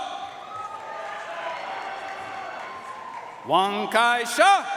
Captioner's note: audience cheering and applauding